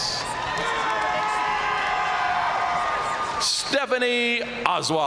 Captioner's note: audience cheering and applauding